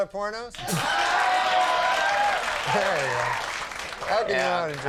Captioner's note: crowd cheers